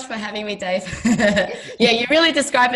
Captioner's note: laughing